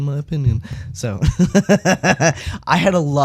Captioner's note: laugh